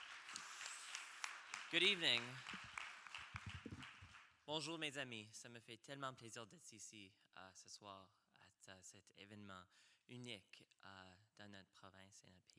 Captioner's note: speaking in french